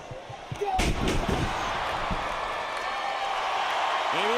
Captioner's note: body thudding; crowd cheers